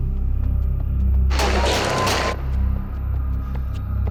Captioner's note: intense music; gunshots